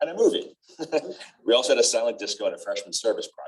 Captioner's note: laughter